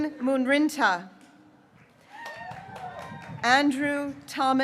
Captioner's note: graduates cheering